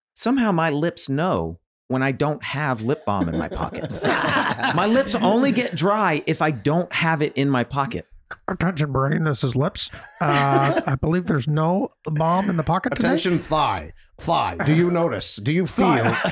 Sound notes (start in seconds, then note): 4.5 everyone laughing